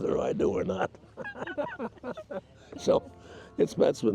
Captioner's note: chuckles